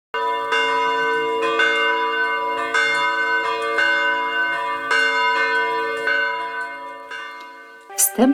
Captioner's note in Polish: Bicie dzwonów